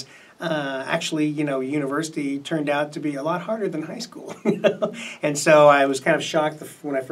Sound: laughs

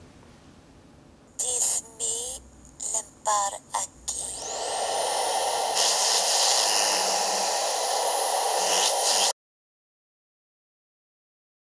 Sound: speaking portuguese

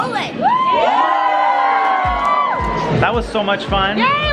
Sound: cheering

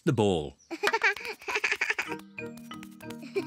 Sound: laughs

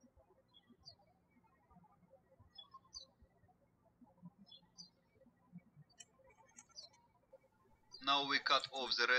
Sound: birds chirping

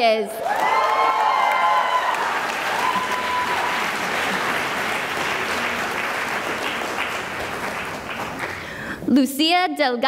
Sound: cheering and applause

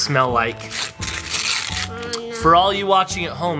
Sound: paper ripping

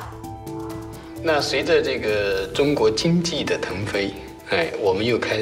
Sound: speaking Chinese

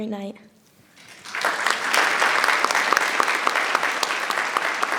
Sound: audience applauding

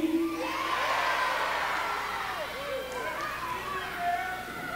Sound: audience cheering

